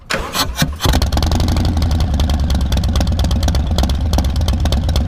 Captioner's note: bike engine roaring